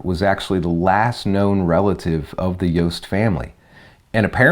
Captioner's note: none